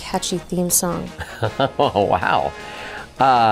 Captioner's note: laughing